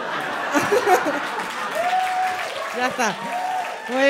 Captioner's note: applause